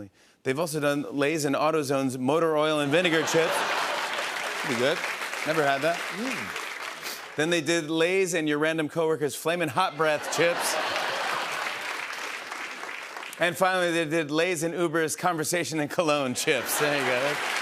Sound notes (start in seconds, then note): 2.9 laughter; 9.9 laughter and applause